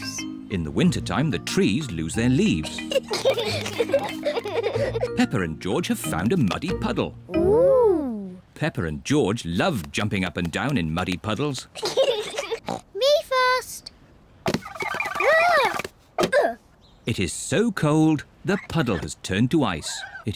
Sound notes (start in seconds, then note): 2.5 both giggle; 11.9 snorts